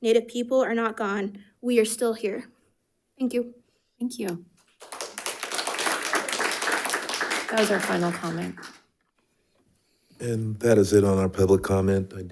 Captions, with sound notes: Native people are not gone, we are still here, thank you. - Thank you. (audience clapping) That was our final comment. - And that is it on our public comment.